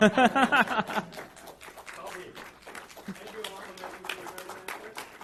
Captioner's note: laughing; audience applauds